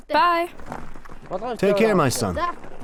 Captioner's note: boy's English Voiceover